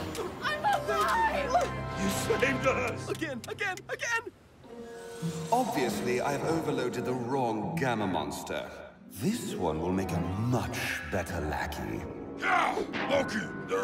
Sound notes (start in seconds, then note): none